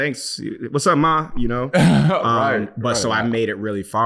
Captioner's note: chuckles